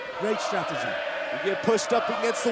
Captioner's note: fans chanting